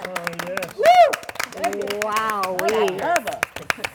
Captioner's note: cheers and applause